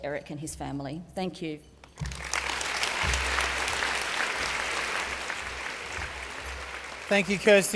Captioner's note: applause